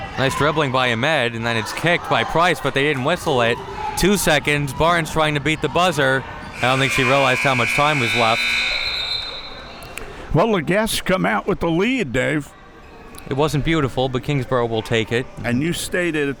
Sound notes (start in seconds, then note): 6.5 buzzer blaring; 6.5 whistle blowing